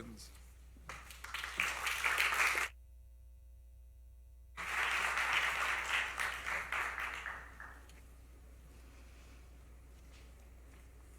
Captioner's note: applause